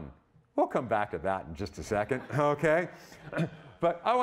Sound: audience laughing

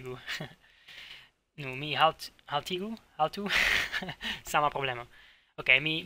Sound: laughs

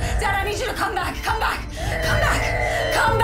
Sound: monitor beeping

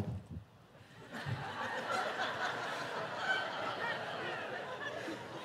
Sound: congregation laughing

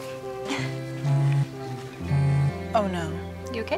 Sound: phone buzzes

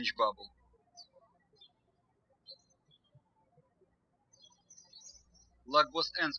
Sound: birds chirping

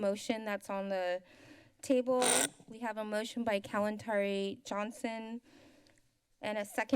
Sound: static sound

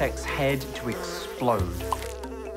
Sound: flies buzzing, corn popping

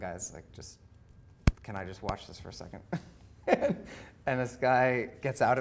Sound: laughing

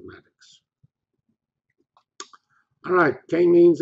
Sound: pause

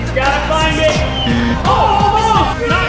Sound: buzzer

